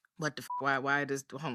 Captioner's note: beep